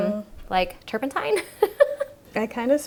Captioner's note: laughing